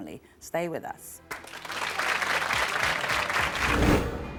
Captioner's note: applause